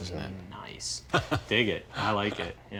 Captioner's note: laughing